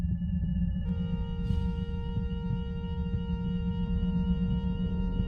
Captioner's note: alarm sounding